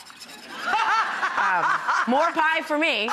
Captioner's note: laughter